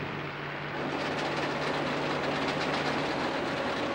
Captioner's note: machine engines running